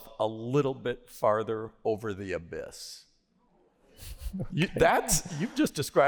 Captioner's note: laughter